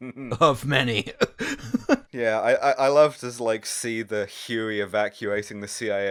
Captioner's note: laughter